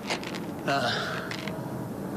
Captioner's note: sighs